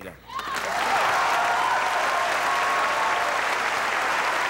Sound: audience applauding

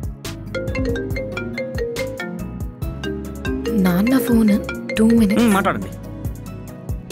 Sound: mobile ringing

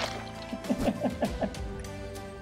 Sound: laughs

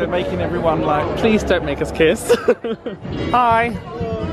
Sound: laughs

